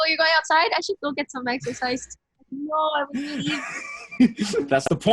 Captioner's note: laughs